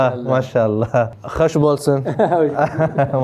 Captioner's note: Turkish